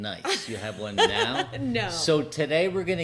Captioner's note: laughing